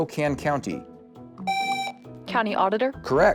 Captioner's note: buzzer